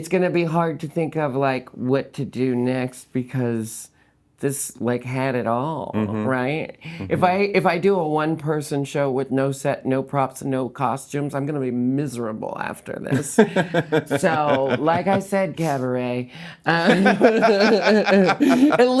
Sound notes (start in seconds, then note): 13.1 laughing; 16.7 both laughing